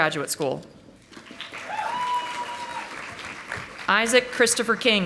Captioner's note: audience applauding